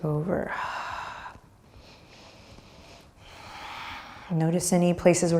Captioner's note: breathing deeply